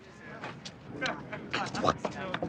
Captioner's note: people chattering